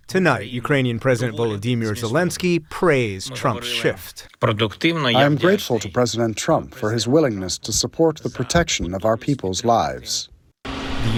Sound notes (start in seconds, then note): 5.8 through translator